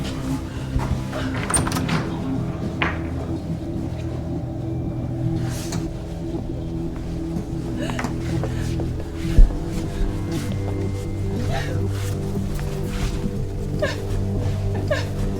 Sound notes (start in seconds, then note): 2.1 door opens; 4.5 tense ambient music; 8.0 Kristin whimpers